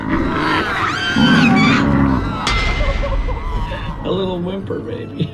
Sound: lamb screaming

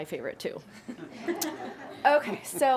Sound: some Board members laughing

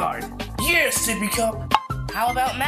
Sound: pop

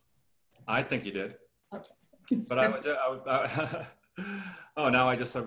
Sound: laughter

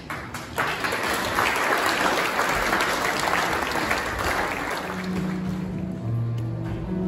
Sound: applause

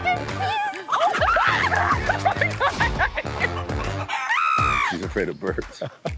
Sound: screams and laughs

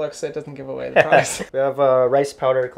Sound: laughs

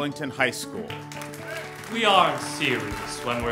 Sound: ^applause^

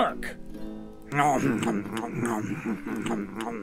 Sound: audibly chews on chicken

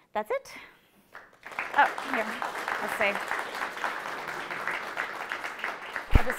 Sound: applause

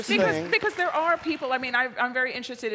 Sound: applause

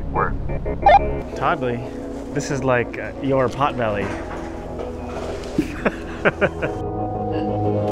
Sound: laughs; dramatic music continues

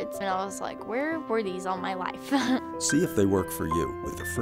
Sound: laughs

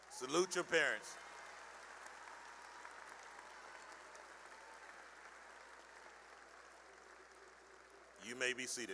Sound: cheering and applause

